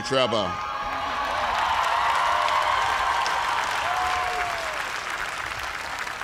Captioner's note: cheers and applause